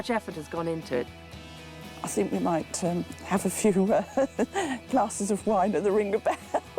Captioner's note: laughing